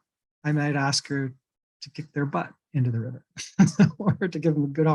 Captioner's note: chuckles